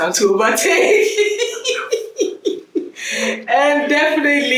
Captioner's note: laughs